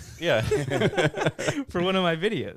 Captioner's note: laughing